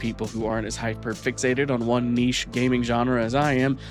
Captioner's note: none